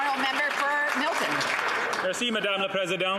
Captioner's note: some Applause